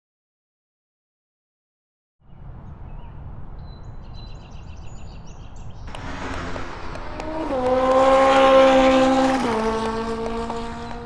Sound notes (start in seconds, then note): 5.8 horse clopping; 7.8 engine screaming